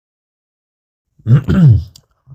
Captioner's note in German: räuspert